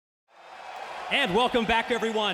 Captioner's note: crowd cheering